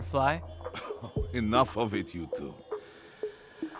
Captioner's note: chuckles